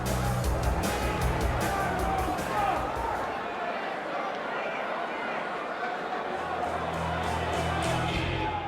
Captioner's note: crowd chatter